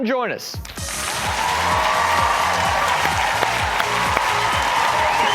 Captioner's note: audience cheers